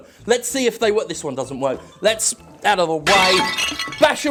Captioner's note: glass breaks